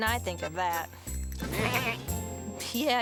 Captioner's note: goat bleating